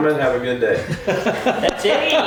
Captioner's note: everyone laughs